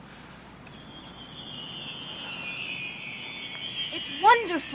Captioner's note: chimes chiming